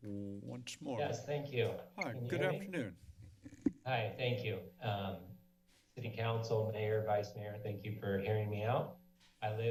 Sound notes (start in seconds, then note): 3.1 mic thump